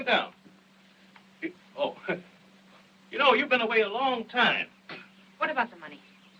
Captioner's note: chuckles